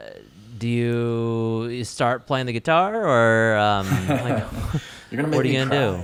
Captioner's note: laughs